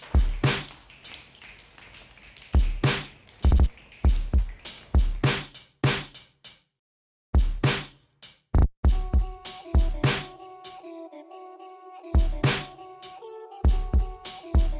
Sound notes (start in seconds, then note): 0.0 class Finger Snapping; 1.0 heaving Drumming Music